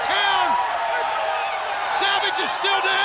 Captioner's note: audience cheers